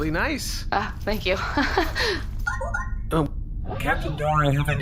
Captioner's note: communicator beeps